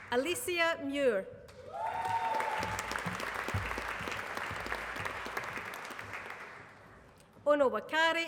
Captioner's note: applause